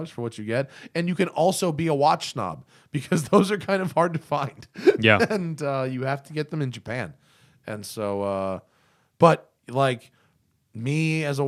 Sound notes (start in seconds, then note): 4.8 laughter